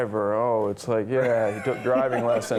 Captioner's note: Ben laughs